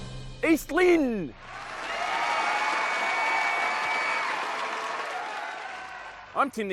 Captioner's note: applause